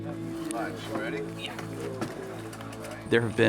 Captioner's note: sound of pushing boat into water